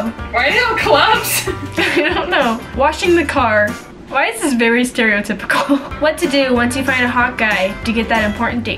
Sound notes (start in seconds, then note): 1.2 laughing